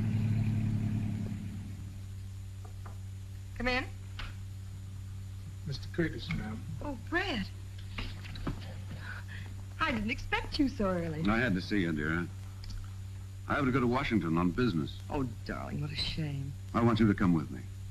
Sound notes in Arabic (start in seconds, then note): 2.0 طرق الباب